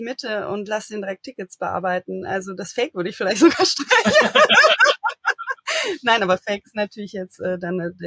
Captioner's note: laugh